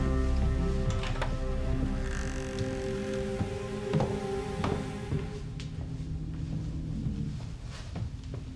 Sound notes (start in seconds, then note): 2.5 footsteps thudding